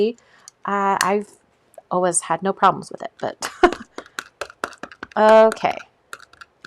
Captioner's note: laughs